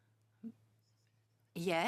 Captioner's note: speaking French